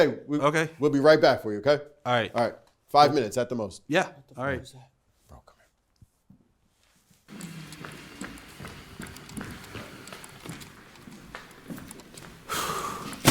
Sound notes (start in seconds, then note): 4.2 Logan - Whispered; 5.3 Simon - Whispered; 9.1 footsteps